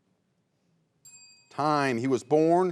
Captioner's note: bell chimes